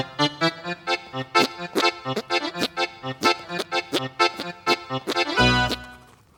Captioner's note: squeaking